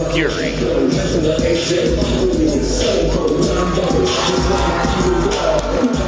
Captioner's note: hip hop music playing; audience cheering